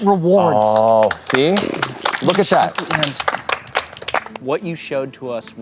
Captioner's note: applause